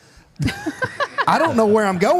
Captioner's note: Michelle laughs